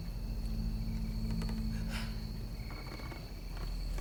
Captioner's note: insects chirping